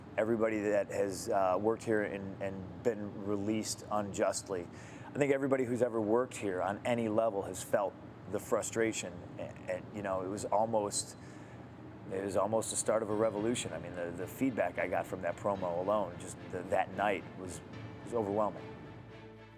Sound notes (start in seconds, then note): none